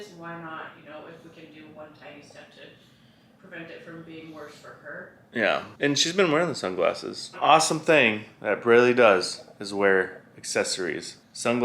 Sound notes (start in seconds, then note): none